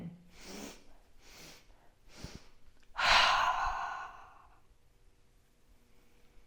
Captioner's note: 3 breaths in and one exhale